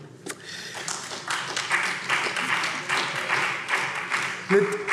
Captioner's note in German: Beifall SPD